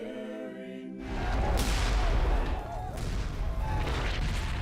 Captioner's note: canons firing